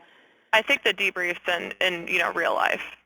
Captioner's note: voiceover